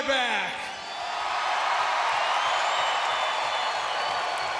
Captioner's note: crowd cheering